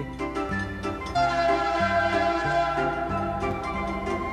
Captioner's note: train hoots; upbeat music